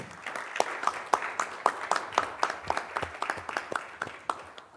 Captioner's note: audience applauds